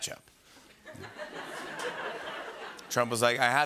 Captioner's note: laughter